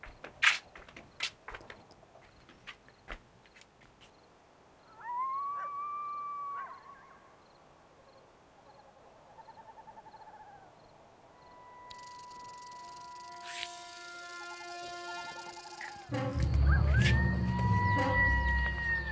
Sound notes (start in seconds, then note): 4.9 animal howling; 5.0 owl hooting; 11.9 creature rattling; 15.8 ominous music